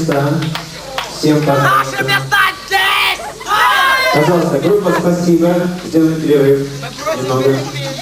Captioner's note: shouting